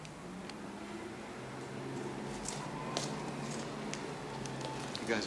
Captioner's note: street sounds